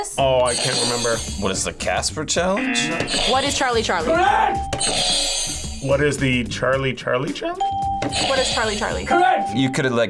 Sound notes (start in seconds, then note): 0.5 buzzer rings; 2.6 buzzer rings; 2.8 buzzer; 4.2 buzzer rings; 7.6 bell rings; 7.6 buzzer rings